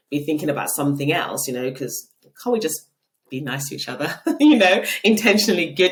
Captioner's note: laughing